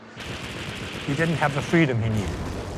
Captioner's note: gunshot fire